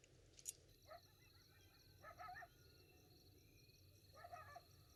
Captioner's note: dogs barking